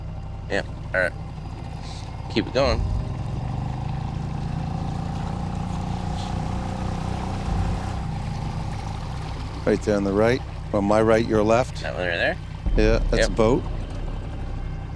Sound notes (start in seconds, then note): 4.4 boat engine revs; 4.4 water sloshes